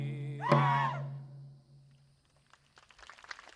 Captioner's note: dancers shrilling; audience applauding